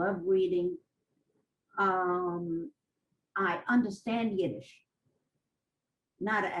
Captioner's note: pauses for 3 seconds